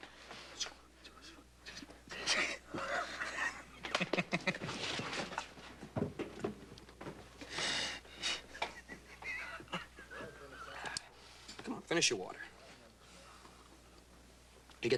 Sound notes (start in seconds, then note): 2.2 laughing